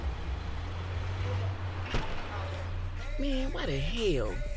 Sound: engine rumbling

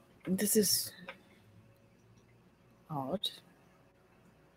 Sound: none

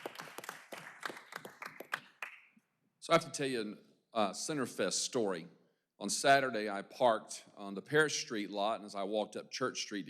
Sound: applause

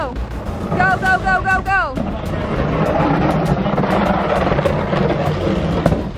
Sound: box scraping

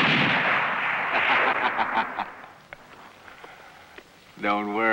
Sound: laughter

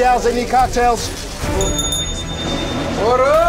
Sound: dinging

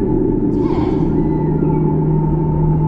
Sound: muffled Voice

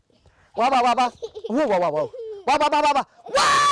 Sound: giggles

